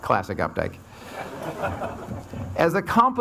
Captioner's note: audience laughs